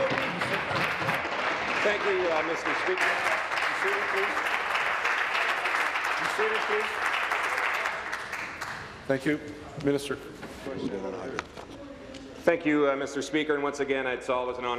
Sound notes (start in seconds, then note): 2.7 applause